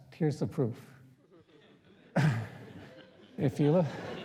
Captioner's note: laughter